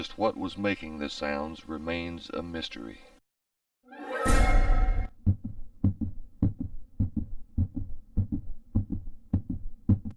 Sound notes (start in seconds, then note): 4.0 dramatic music; 6.0 rhythmic beating